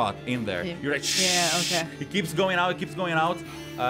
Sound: shhhhhs

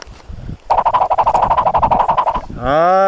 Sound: whoosh

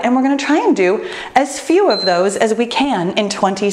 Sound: timer beeps

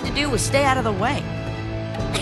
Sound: Anna giggles

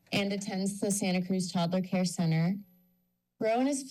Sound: none

